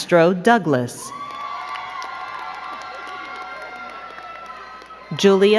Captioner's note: crowd cheering and clapping